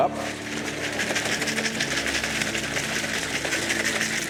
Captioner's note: water whooshing